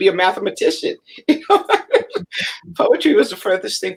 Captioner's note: laughter